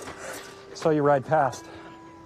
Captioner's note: Mei gasps